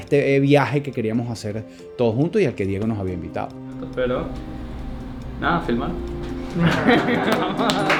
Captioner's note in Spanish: risas